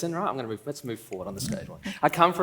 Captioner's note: laughs